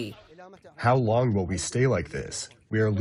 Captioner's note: through translator